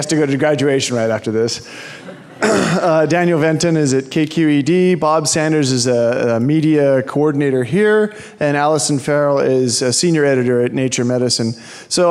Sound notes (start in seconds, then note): 1.8 audience laughing